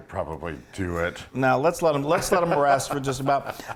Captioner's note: laugh